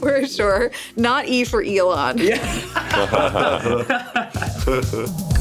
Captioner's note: laughs